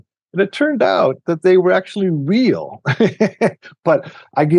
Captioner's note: chuckles